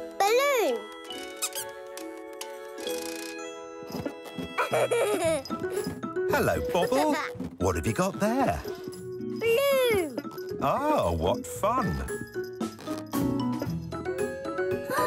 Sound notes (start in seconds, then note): 4.5 giggling; 12.2 whimsical instrumental music